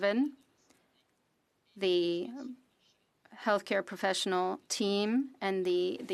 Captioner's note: speaking French